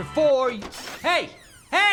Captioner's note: door opens